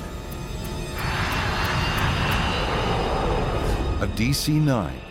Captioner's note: airplane engine roaring